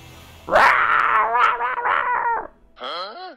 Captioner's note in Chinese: 口君野獸吼叫聲